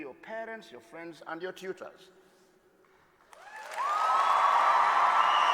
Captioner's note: applause